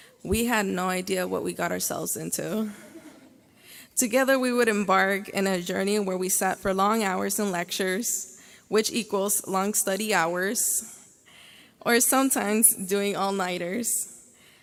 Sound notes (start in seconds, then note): 2.8 graduates laugh